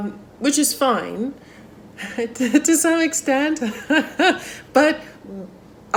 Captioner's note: laughs